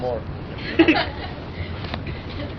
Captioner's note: laughter